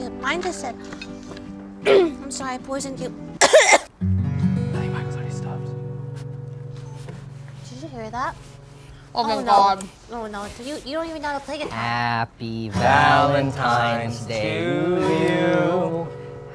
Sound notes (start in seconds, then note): 1.8 coughs; 3.4 coughs; 3.6 guitar strums